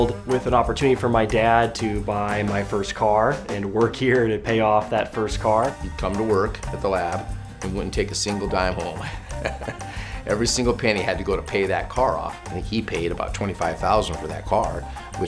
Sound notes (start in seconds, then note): 9.0 laughs